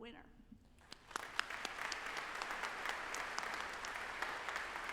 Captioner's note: audience applauding